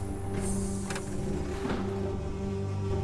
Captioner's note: electronic whirring